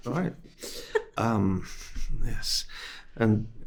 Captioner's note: host laughing